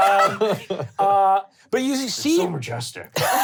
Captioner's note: laughing